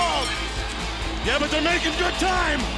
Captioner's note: bell ringing